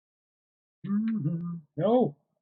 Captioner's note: hums